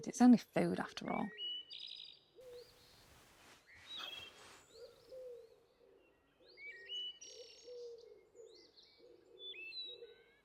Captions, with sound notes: It's only food, after all. (birds chirping)